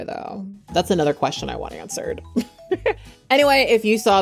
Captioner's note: chuckles